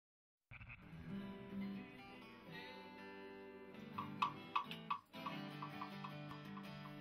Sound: tranquil guitar music; tapping

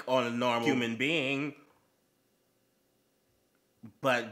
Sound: confused silence

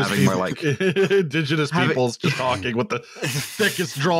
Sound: laughs

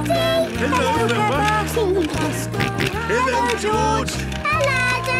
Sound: George giggling and snorting

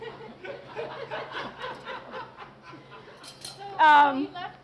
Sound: audience Laughter

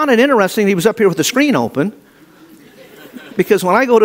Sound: audience laughing

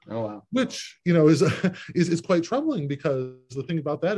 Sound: laughs

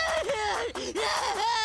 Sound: crying

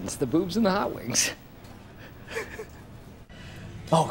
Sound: chuckles

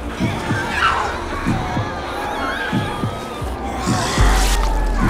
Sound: heartbeat pounds; woman screams

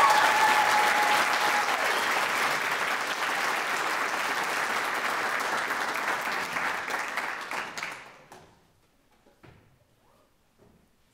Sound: audience applauds

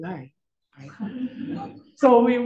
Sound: audience chuckles

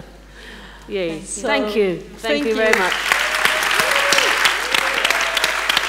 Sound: applause

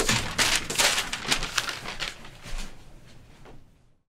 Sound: papers crumpling

